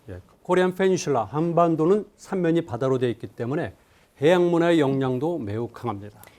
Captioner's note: speaking in Korean